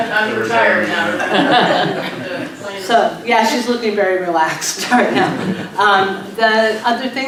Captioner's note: laughs